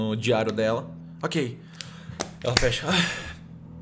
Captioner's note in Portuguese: Suspiro